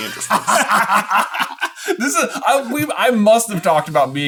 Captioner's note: laughing